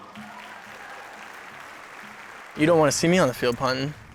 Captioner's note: applause